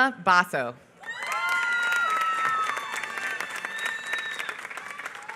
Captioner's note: applause